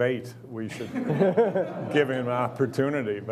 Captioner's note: laughing